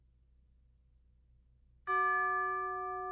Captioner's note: bell Tolls